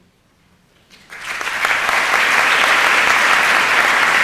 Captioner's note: applause